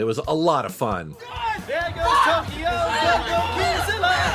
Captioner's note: yelling